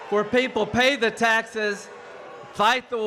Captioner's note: boos and cheers